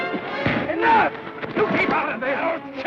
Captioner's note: thud